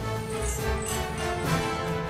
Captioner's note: chain clashing